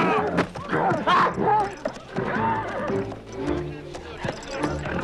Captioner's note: guard shouts